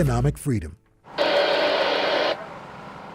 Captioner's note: radio static